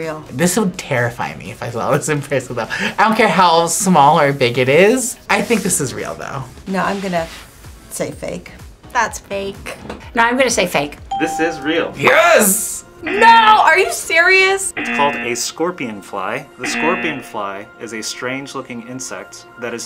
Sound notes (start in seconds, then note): 11.1 bell rings; 14.7 buzzer rings